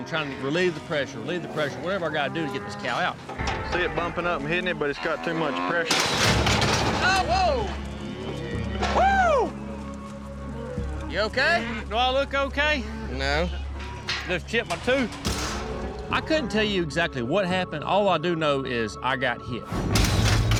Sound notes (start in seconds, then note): 5.8 gate pops open; 9.0 whoops